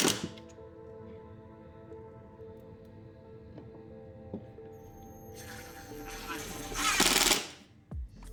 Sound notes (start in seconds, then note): 0.0 drill whirring; 1.6 drill whirring